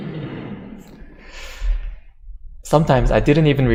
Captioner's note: audience laughter